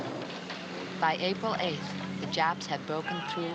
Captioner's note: Maggie Voiceover